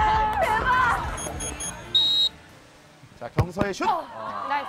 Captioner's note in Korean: 호루라기 소리